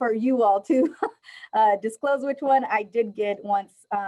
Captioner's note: laughter